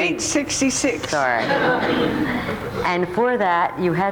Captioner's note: audience laughs